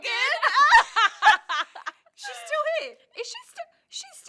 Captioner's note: laughter